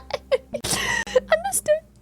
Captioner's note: laughs